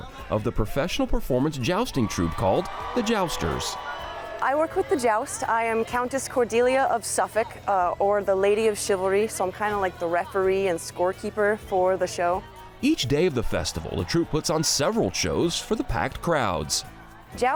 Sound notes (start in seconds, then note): 1.5 crowd cheering